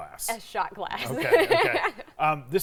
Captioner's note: laughs